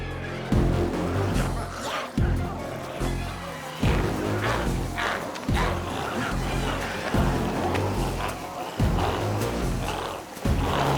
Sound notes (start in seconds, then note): 2.0 glowzies growling; 5.2 intense music continues